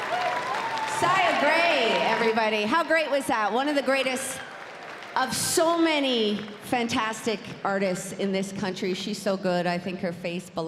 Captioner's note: cheers and applause